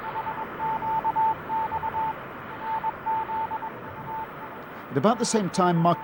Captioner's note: beeping